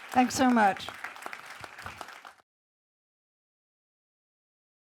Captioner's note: audience applauds